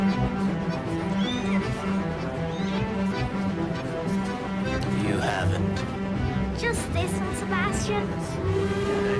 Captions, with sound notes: [kitten mewing] You haven't? Just this one, Sebastian.